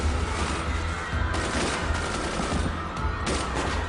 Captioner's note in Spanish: Disparos